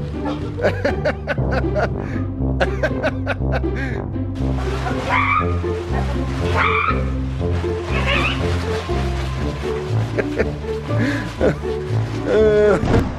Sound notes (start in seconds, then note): 0.9 father laughs; 6.4 more squawking noises